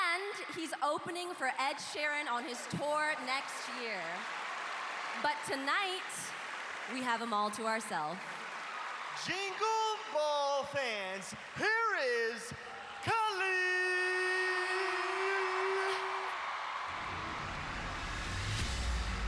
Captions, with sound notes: Billie Eilish, and he's opening for Ed Sheeran on his tour next year. But tonight... we have him all to ourself. Jingle Ball fans, here is... Khalid! [cheering]